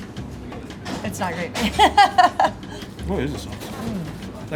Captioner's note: laughs